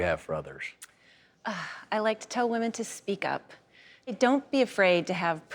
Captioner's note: sighs